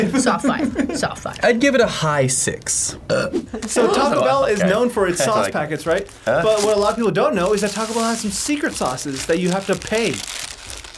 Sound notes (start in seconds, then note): 3.0 burps